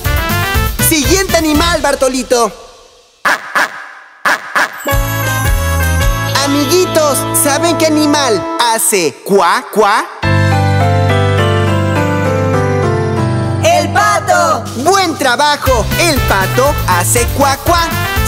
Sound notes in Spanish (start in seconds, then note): 4.2 Sonido de pato; 10.5 Música Alegre